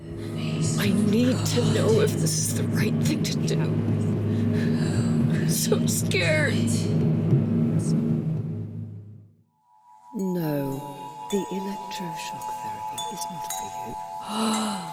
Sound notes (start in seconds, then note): 9.6 gentle, Etherial twinkling sound; 10.9 Angelic voice